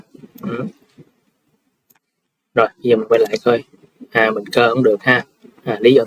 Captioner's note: clears throat